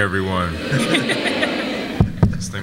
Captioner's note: audience laughs